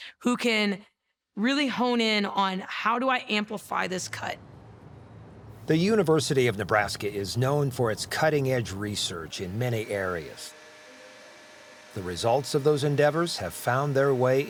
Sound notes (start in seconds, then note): 10.7 machine whirling